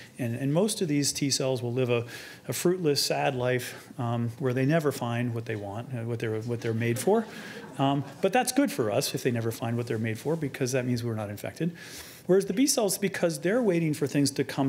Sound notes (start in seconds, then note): 6.6 audience laughing